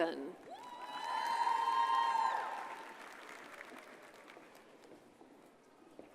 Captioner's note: audience cheers and applauds